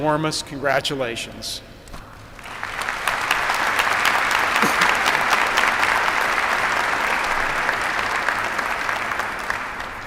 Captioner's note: applause